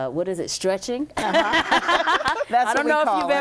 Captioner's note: laughing